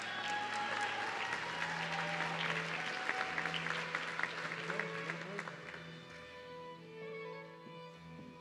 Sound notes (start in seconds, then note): 1.5 audience cheering